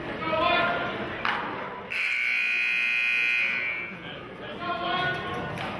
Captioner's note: buzzer honks